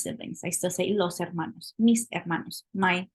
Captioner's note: spanish